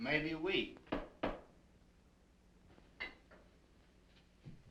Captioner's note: door knocking